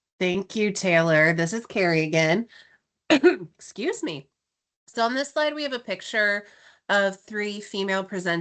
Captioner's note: coughs